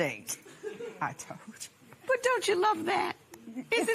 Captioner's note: laughing